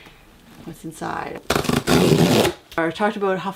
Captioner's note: ripping of cardboard